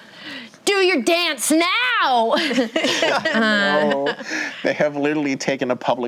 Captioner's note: light laughter